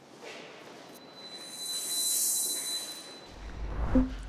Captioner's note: whooshes